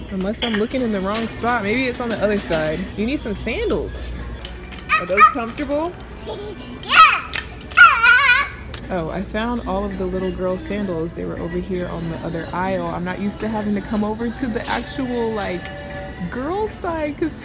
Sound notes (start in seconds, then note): 6.2 giggling; 6.2 exclaiming happily